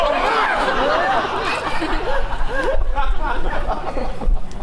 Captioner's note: audience laughs